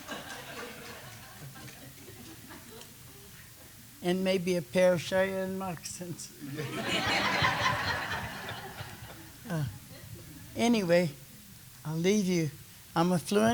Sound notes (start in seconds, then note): 6.5 laughter